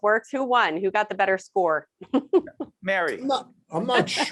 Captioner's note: laughing